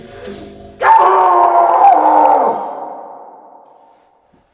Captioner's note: off screen screaming